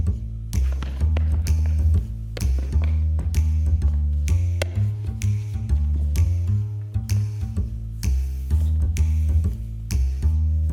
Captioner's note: very sneaky sounds